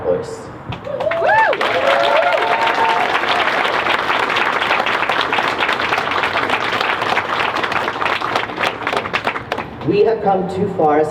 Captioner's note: crowd cheers